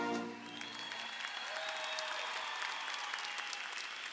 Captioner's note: audience cheering